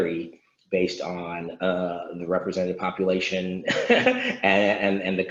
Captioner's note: laughs